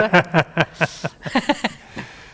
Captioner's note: laughs